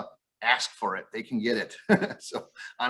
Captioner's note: chuckles